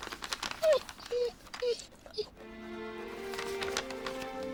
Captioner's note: whimpering; dramatic music